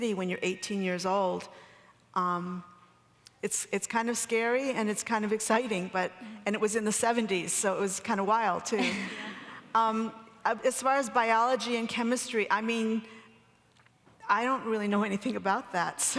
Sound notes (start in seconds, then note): 9.2 audience laughing